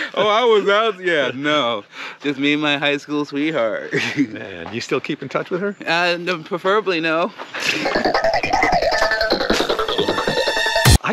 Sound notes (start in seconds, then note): 7.5 both chuckling; 7.6 upbeat music